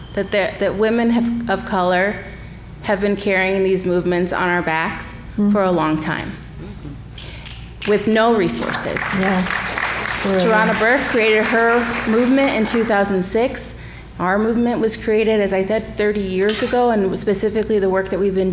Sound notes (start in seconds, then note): 8.4 applause